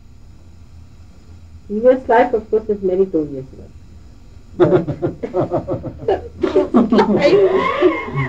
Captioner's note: laughter